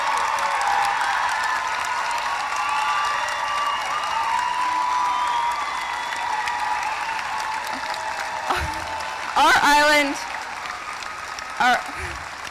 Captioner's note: cheering; applause